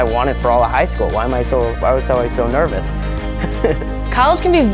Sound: laughing

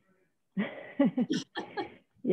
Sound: laughter

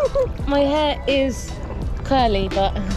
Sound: laughing; water sloshing

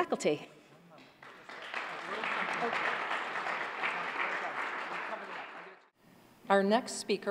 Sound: applause

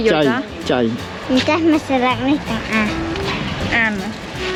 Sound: Korean

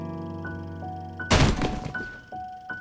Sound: crashing noise

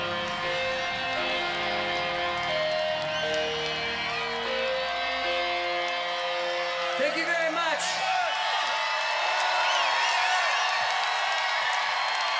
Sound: cheers and applause

